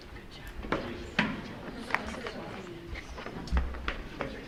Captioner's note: light chattering